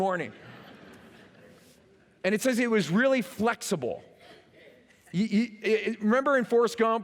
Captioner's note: laughter